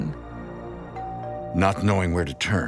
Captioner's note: doorbell rings